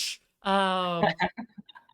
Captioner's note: laughs